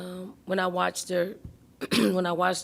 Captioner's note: clearing throat